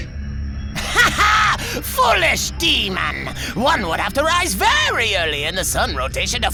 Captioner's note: laughs